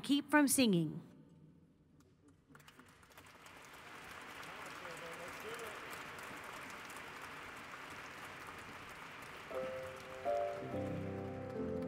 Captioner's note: applause